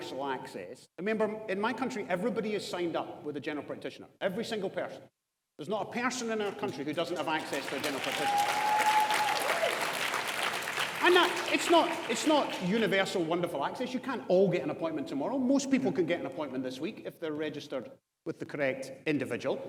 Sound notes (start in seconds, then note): 9.6 audience applauds